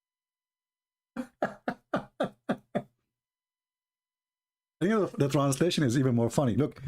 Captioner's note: Ketawa